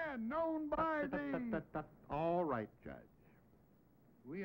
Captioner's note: laughs